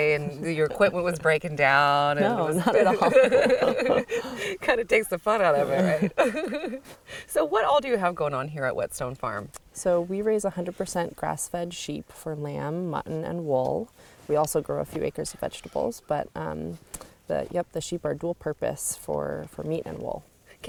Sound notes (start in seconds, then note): 2.2 ladies laughing